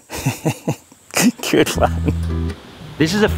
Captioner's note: chuckles